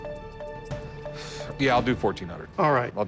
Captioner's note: sighs